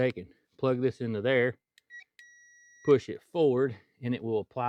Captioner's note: beeping